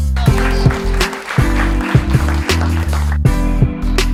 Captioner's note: smooth music; audience claps; smooth music